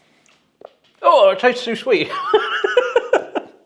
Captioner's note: laughs